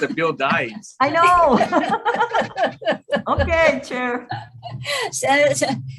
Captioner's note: laughs